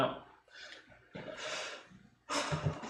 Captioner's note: laughing